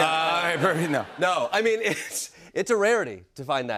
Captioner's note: audience laughs